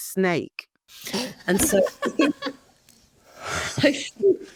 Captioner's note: all laughing